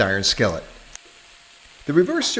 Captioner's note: steak sizzling